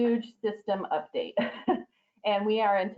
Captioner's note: laughter